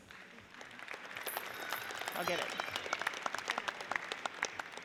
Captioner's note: audience applauds